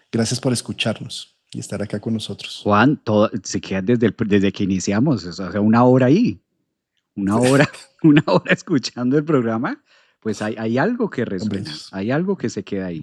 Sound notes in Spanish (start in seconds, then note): 8.0 risas